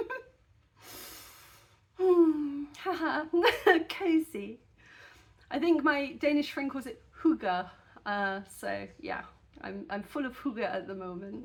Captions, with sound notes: [deep sigh] Ha ha. Cozy. I think my Danish friend calls it hygge. Uh, so yeah, I'm I'm full of hygge at the moment.